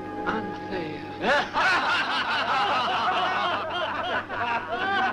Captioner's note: men laughing